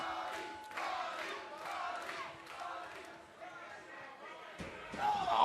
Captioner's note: crowd cheering